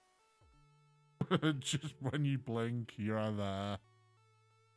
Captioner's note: chuckles